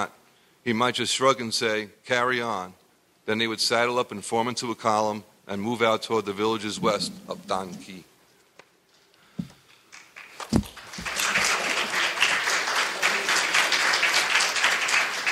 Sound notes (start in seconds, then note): 9.8 audience applauding